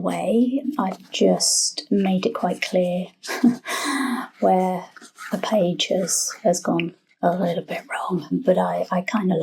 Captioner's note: laugh